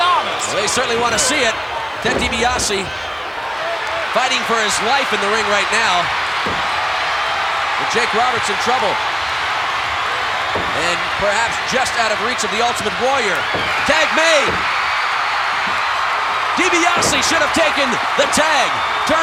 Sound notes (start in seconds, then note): 6.0 audience cheering; 14.8 audience cheering